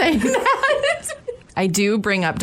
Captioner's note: laughter